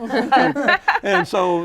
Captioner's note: laughter